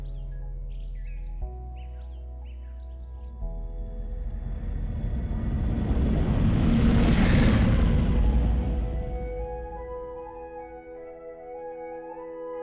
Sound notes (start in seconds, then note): 3.5 heavy spaceship passing